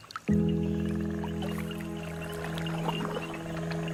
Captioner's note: animals calling